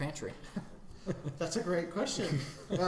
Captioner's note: chuckling